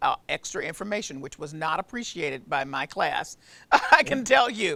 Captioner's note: laughs